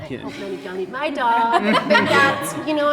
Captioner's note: group laughing